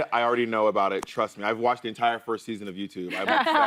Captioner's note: laughter